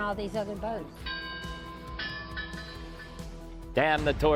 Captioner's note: bell ringing